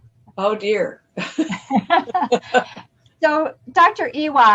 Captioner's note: laughter